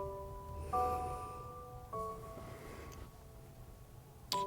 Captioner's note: Bryan sighs